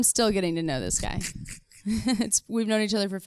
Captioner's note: both laughing